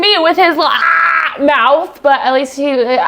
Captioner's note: imitates zombie growling